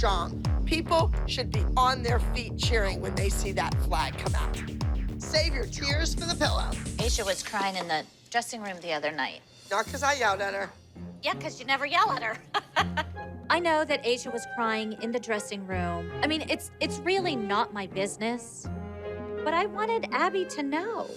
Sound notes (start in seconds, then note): 12.1 laughs